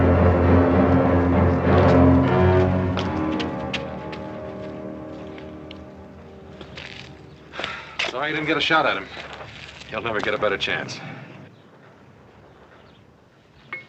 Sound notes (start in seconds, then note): 7.4 sigh